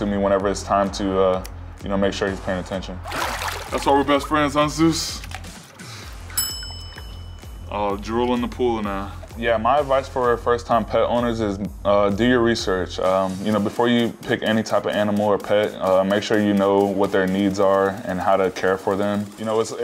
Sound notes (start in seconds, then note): 6.3 bell dings